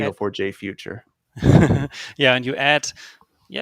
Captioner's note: laughing